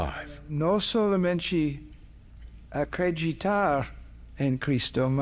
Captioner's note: speaking Portuguese